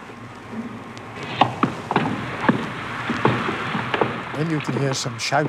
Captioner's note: radio broadcasting in German; feet stamping